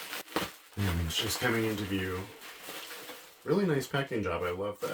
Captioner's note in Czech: Velmi hlučné zvuky bublinkové fólie